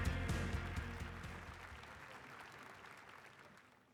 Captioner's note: upbeat music; applause